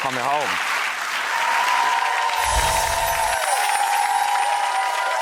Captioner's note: applause and cheering